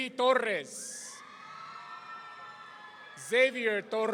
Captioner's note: audience cheering